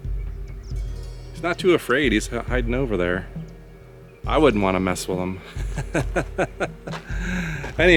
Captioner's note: laughs